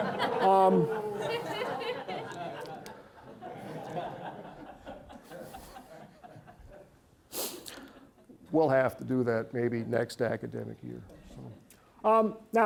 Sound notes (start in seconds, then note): 0.0 audience laughing